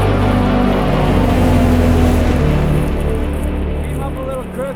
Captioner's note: motor whirring